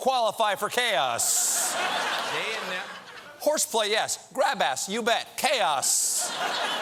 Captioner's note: laughter